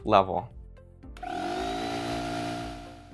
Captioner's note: machine humming